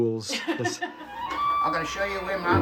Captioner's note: laughing